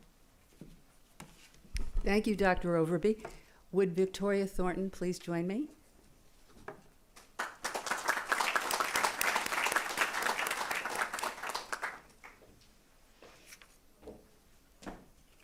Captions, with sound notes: thank you Dr Overby, would Victoria Thornton please join me [applause]